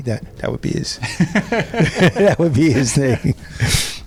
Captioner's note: laughs